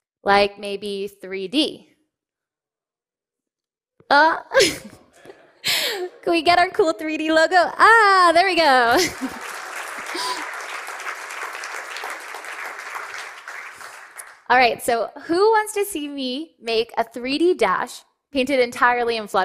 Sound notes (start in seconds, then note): 6.0 laughs; 8.6 applause